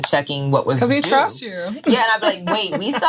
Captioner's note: laughing